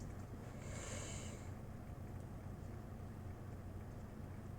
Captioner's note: heavy breathing